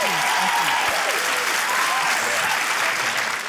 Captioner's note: cheering, applause